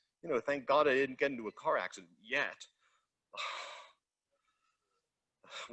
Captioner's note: sighs